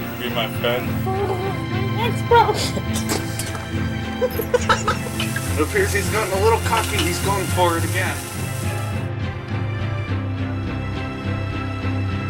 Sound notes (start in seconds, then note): 4.7 laughing